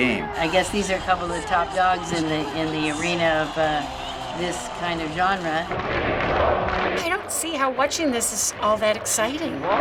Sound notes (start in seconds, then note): 5.6 crowd chanting; 9.5 crowd chanting and clapping